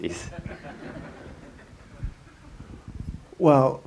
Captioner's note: audience laughter